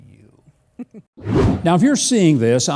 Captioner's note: woman laughs; air whooshing